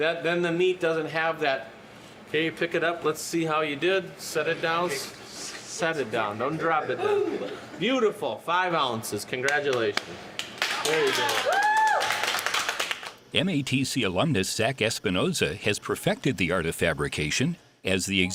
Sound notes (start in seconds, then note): 10.3 clapping and cheering